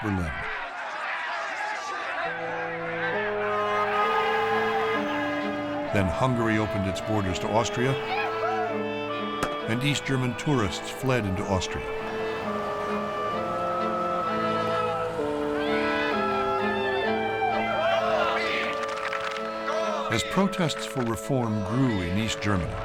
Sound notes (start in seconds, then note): 0.2 crowd clamoring; 3.6 horn honking; 17.5 chanting and clapping in rhythm